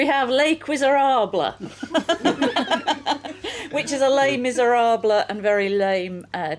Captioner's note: laughing